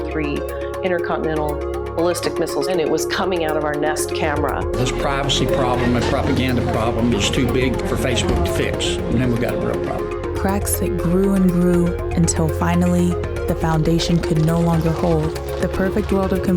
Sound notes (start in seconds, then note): 13.9 hooves clomping